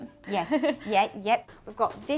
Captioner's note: laughs